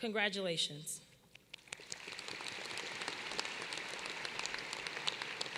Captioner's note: applause